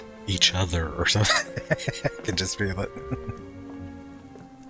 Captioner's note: laughing